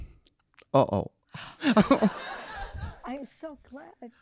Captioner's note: audience laughing